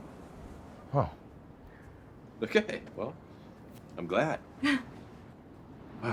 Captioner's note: laughs; Fern laughs